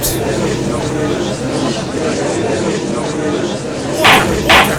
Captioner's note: gallery chattering